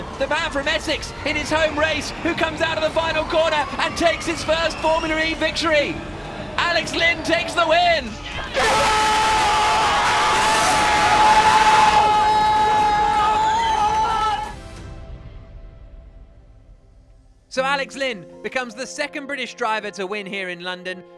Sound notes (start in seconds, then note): 8.5 team celebrates